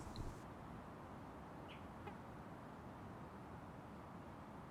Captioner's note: wind fades out